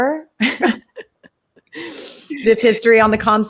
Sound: both laugh

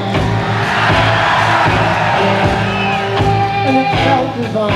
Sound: audience screaming

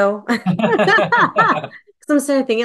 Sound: laughing

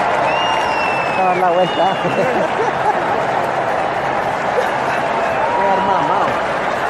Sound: giggles

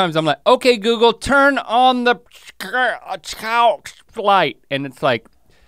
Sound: stutters

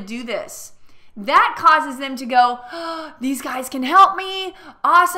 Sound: gasping

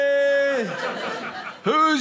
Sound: audience laughing

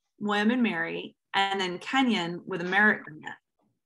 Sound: audio distortion

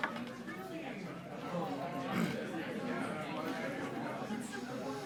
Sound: group chattering

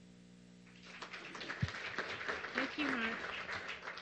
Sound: applause

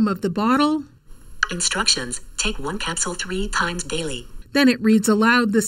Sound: voice from phone

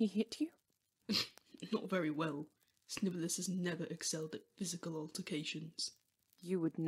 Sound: James snorts

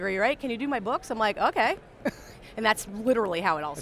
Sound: laughs

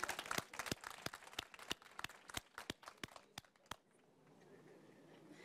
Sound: applause

